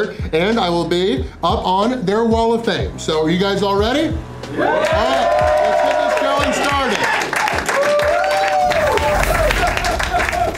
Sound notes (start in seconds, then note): 4.4 crowd clapping and cheering